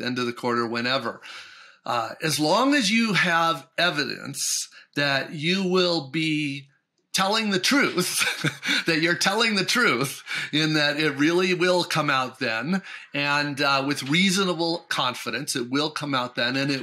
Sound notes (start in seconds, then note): 7.8 laughs